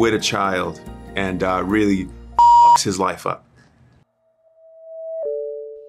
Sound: beep

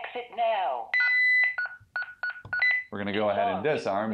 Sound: beeping

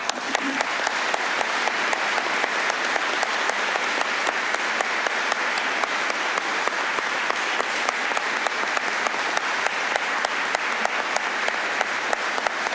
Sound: applause

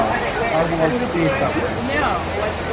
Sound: voice muffling

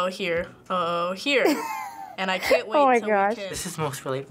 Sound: laughs; laughs

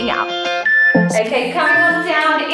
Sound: beeping

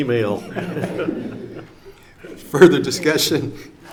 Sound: everyone laughing

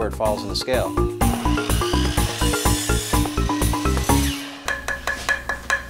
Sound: saw whirring; hollow tapping

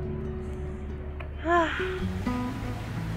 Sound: sigh

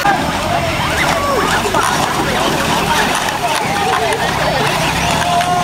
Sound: crowd chattering and cheering

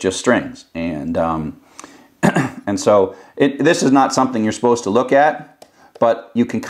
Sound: cough

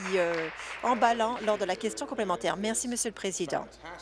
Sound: applause

